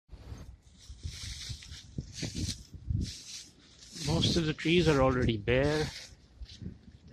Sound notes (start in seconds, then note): 0.2 wind blowing gently; 0.2 leaves rustling